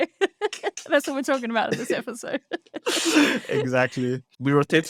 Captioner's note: laughs